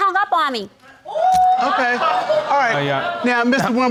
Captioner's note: audience exclaiming